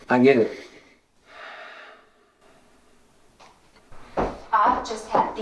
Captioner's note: Ramon sighing